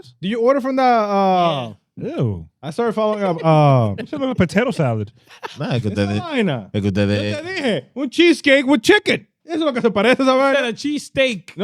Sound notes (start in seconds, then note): 2.9 laughing; 6.7 speaking In Foreign Language; 9.5 speaking In Foreign Language